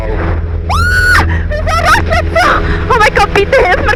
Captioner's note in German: schreit